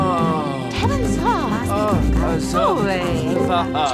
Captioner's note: speaks in another language